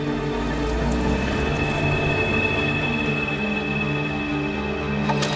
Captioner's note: car engine revving